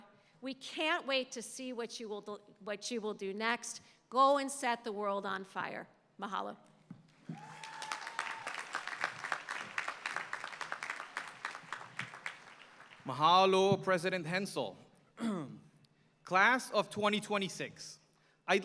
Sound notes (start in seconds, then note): 7.2 applause